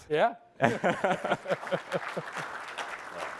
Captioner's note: laughing; applause